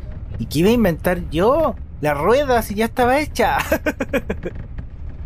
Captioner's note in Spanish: risas